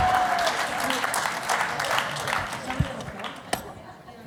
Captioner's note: applause